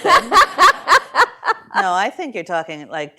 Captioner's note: laughter